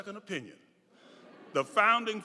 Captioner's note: audience laughing